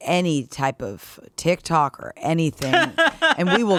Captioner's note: laughing